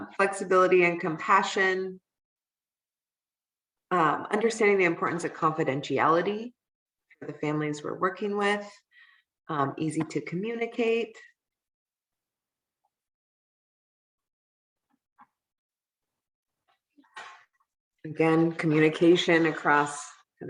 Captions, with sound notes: Flexibility and compassion. Understanding the importance of confidentiality for the families were working with. Easy to communicate. [silence] Then, communication across and of that whole